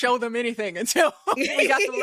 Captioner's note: laughing